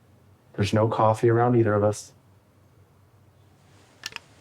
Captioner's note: none